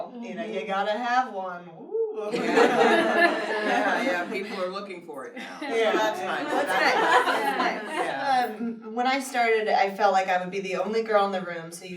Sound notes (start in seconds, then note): 2.3 laughter